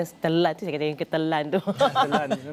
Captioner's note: laugh